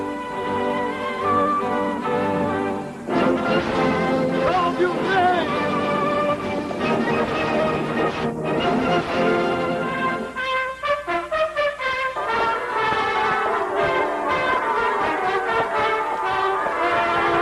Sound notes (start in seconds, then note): 9.5 fanfare; 13.1 bells ringing